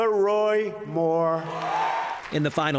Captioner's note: cheering and applause